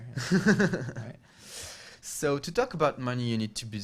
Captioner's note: laughs